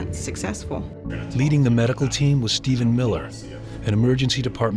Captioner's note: voiceover